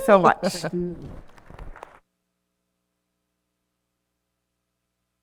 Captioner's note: attendees applauding